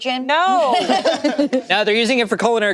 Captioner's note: group laughing